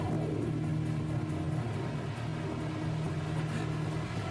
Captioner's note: panting